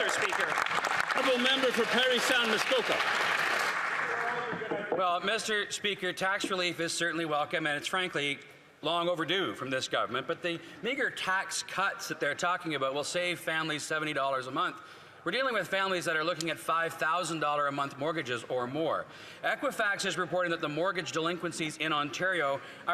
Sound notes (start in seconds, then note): 3.9 some Applause